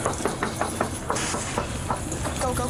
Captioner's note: knocking